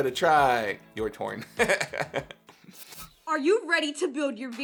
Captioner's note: laughing